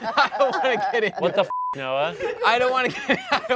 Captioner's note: beep; laughs